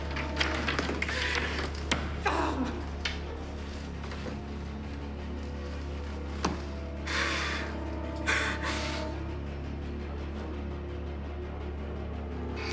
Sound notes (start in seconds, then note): 0.3 door knob clattering; 7.0 gasping